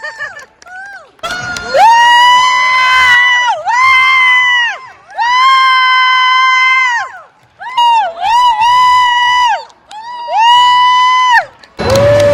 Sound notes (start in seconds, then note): 1.1 applause; 1.3 screaming